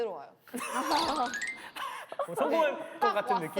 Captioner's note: laughing